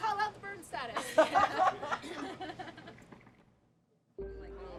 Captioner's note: all laughing